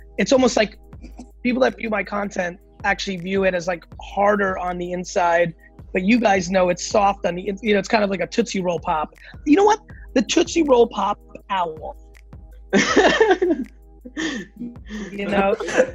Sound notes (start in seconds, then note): 14.1 laughs